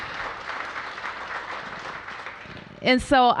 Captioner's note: applause